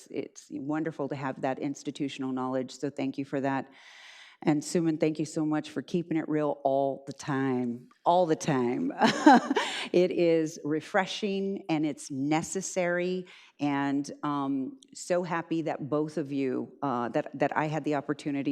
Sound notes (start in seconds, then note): 9.2 laughs